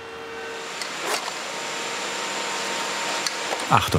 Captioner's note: machine whirring